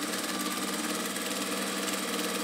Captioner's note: sewing machine whirring